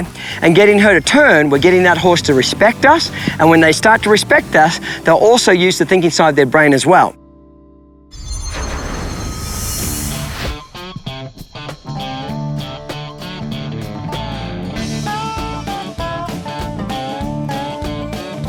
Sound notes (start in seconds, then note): 8.1 shimmering; 10.9 upbeat country music